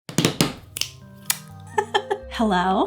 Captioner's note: fingers snap